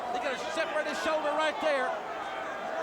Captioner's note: crowd cheering